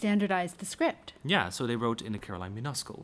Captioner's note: voiceover